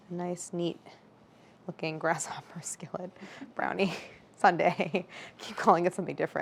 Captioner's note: laughs